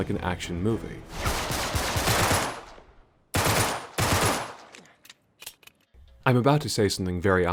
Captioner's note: gunfire